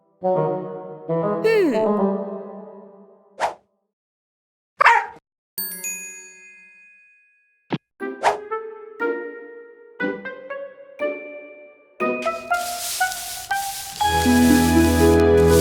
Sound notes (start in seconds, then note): 4.8 barks; 12.2 leaves rustling